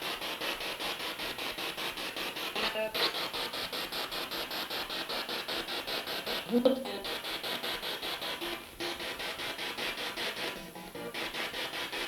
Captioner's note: sound of the Spirit Box in the background